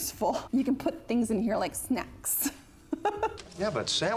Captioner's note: laughs